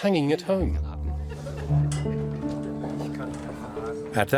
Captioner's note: bustling crowd